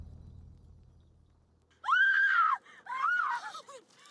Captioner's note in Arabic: صراخ